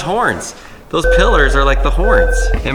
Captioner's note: alarm ringing